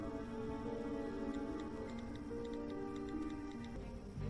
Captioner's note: typing